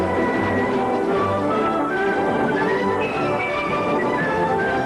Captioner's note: none